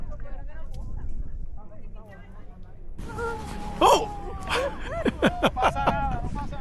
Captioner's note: laughs